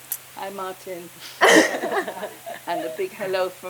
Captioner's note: all laugh